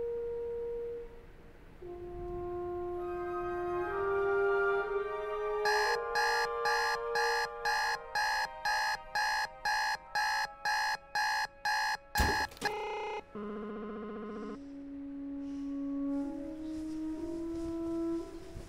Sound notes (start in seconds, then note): 5.6 alarm clock blaring; 12.1 loud hit